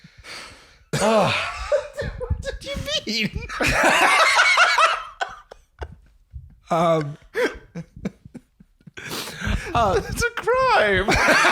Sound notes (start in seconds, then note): 0.0 heavy sigh; 4.3 both in hysterics